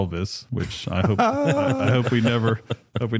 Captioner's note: laughter